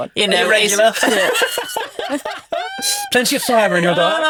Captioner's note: group laughs